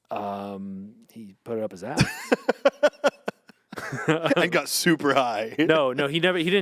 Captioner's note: laughs